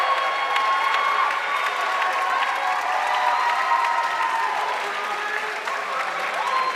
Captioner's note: audience cheering and applauding